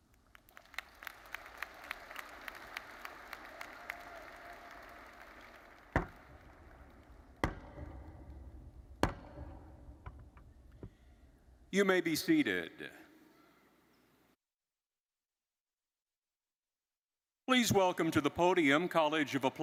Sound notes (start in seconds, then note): 0.2 crowd applauding; 7.3 rapping university mace repeatedly